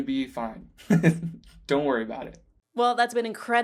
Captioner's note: laughing